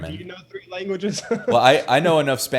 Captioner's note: laughs